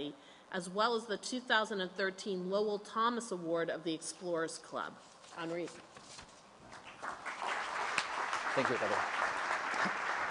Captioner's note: applause